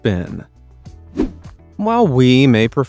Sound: air whooshing

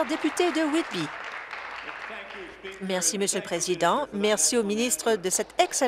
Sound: applause

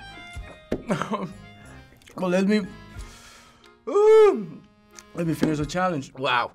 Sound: whimpers

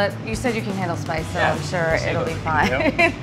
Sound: laughs

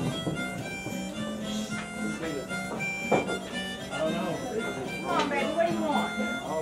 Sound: harmonica music; people chattering

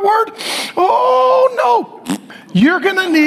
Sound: blows raspberries

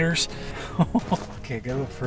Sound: chuckles

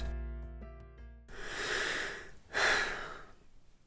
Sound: dramatic sigh

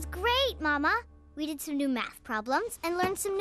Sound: none

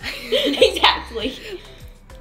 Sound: laughs

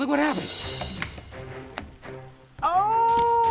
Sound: food sizzling

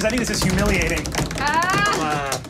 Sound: players tapping table dramatically

